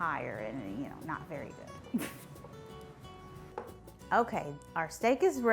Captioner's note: chuckles